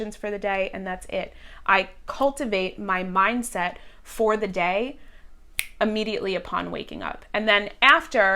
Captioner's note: snaps